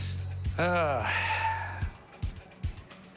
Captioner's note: sighs